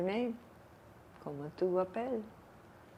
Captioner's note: french